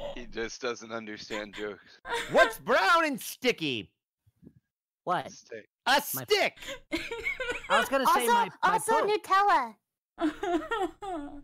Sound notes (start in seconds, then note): 5.3 whispering; 6.8 laughter